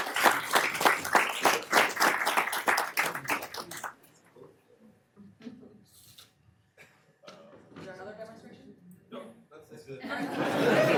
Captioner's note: applause